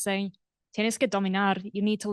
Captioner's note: non-english speech